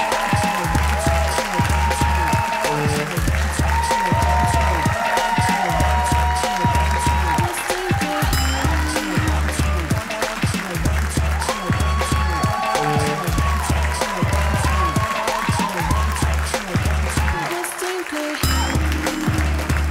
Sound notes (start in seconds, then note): 1.7 audience applauds